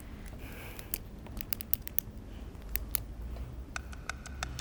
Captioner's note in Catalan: Lisa comença a fer sons nerviosos amb el boli